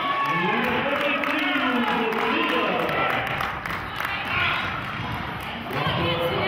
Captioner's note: cheering and clapping